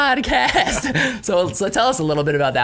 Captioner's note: laughing